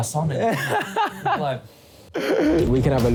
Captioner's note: laughs